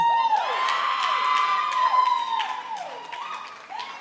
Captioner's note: cheering